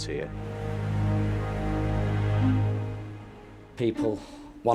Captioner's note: gentle music; boat droning